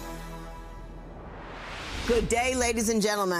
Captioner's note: whooshing